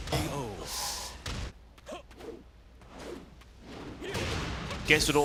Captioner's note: game sounds